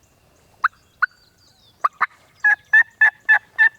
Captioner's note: turkey call